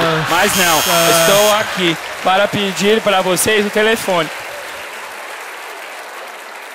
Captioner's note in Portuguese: campainha